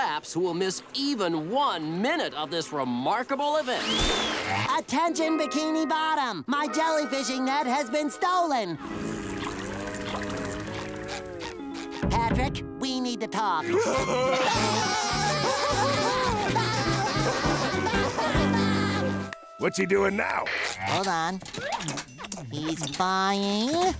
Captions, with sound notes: miss even one minute of this remarkable event. Attention, Bikini Bottom! My jellyfishing net has been stolen. Patrick, we need to talk. [laughing] What's he doing now? Hold on. He's buying...